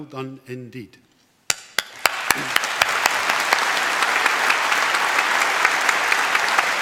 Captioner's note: applause